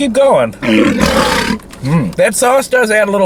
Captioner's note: lion roars